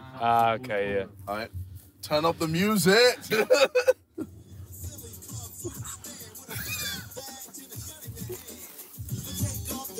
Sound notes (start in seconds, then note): 3.3 laughing; 5.3 hip hop music